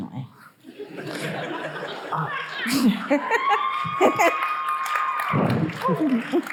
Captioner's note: audience laughing; audience cheering